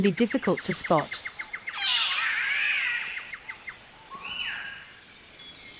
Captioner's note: Catbird calls